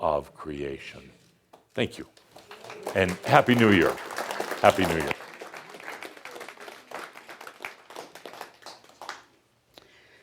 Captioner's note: audience applause